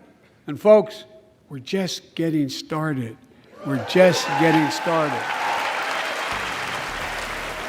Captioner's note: applause